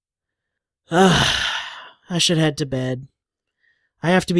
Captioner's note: sighs